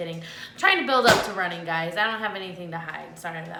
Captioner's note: book thumps